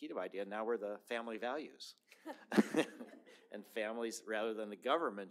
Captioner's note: laughter